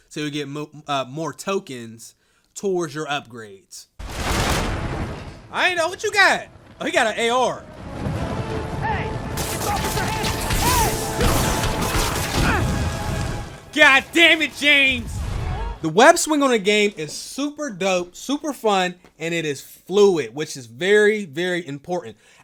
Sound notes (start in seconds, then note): 9.3 gunfire And Shouting